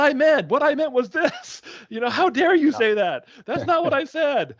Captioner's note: chuckling